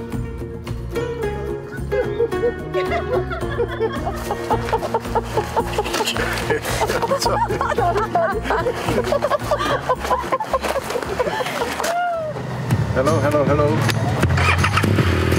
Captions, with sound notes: (Laughter) Hello, hello, hello!